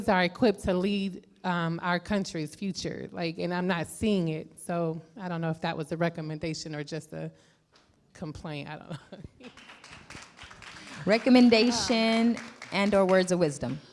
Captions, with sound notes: are equipped to lead our countries future, and I'm not seeing it. So, I don't know if that was a recommendation or just a complaint, I don't know (laughs). (clapping) Recommendation, and/or words of wisdom.